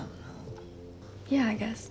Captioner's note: French